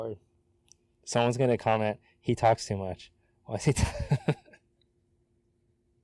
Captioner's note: laughs